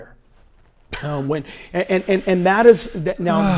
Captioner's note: laughs